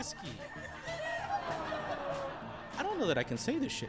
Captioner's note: audience laughs